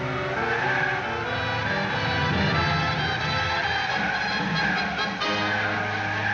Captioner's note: dramatic music; wind whooshing